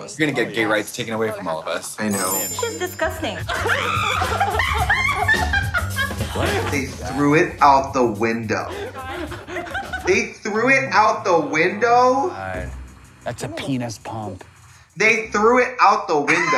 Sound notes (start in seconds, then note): 3.4 woman screams; 4.8 woman laughs